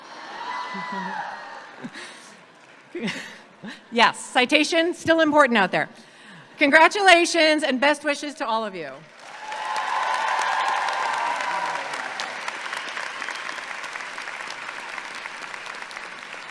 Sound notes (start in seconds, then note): 0.1 audience clapping and cheering; 9.0 audience clapping and cheering